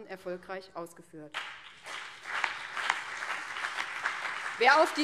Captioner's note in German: Beifall BÜNDNIS 90/DIE GRÜNEN und CDU